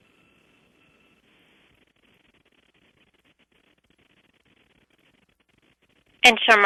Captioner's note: pause